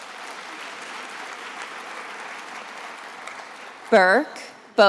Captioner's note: attendees applauding